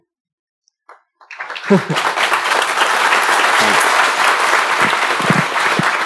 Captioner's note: speaking japanese; applause